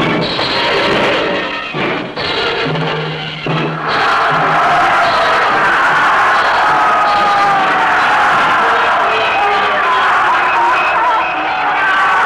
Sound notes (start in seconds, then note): 3.9 crowd roaring